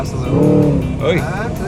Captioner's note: engine revving